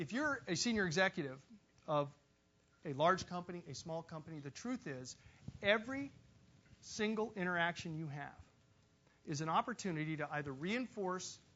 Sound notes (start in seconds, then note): none